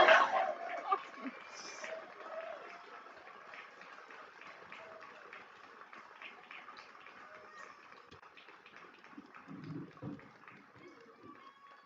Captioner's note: cheering and applause